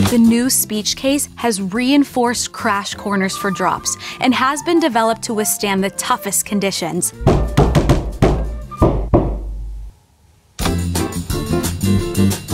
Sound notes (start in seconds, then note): 7.2 Klopf, klopf von irgendwo; 7.2 Klopf, klopf, klopf, klopf, klopf